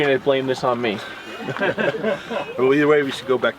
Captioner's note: man laughing